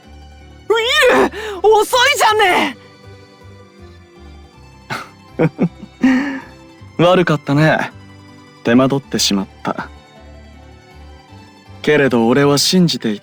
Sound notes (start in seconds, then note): 5.3 laugh